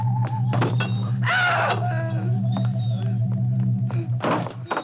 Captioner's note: Cleo screams